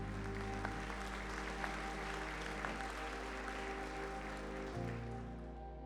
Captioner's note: cheers and applause